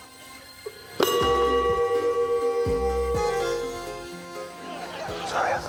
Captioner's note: bell dings